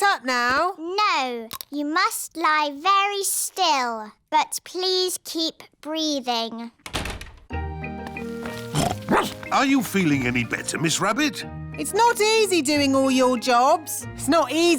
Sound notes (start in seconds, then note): 6.8 door shuts; 8.6 snorts; 8.8 barks